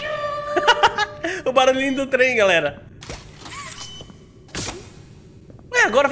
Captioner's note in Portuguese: risos